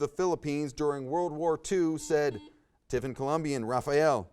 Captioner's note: buzzer buzzes